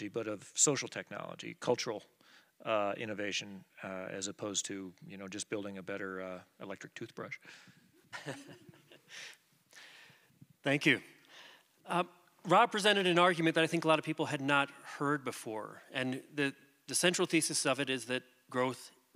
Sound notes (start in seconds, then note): 8.1 laughter